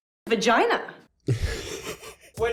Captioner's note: wheezing laugh